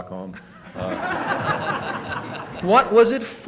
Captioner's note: laughter